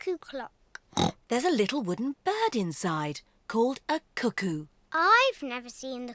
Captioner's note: oinks